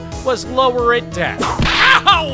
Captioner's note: whip crack!